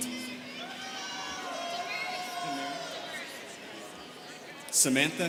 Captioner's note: students cheering